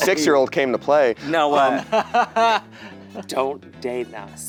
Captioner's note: laughing